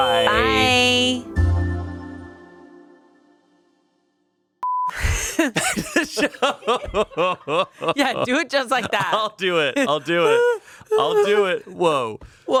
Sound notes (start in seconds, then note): 4.6 beep; 7.1 laughs